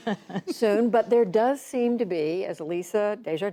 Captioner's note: laughter